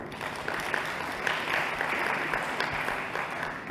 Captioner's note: applause